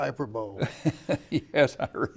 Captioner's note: laughing